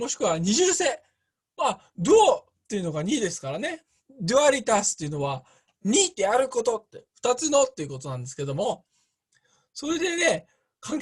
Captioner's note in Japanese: ラテン語